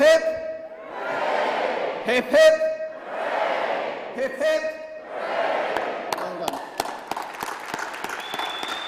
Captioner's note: cheers